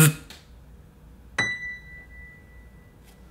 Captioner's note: ding